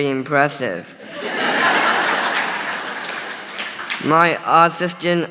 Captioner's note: audience laughing